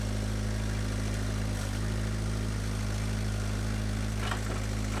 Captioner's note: engine revving